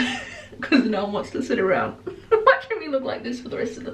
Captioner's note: chuckles